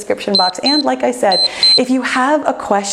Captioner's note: timer beeps